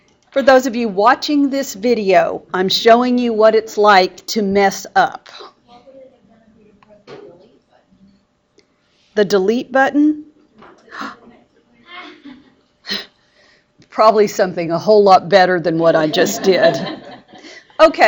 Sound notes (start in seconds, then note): 11.1 gasp; 11.8 student laughs; 16.2 laughing